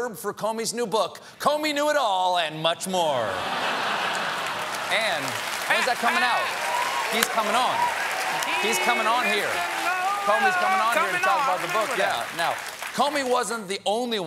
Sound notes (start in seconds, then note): 3.2 laughter; 3.8 applause